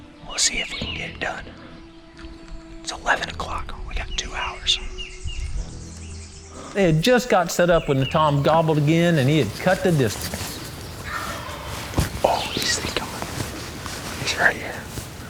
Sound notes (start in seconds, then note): 11.2 whispering